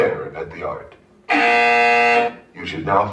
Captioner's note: loud BZZZZZZ